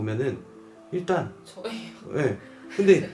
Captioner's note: laugh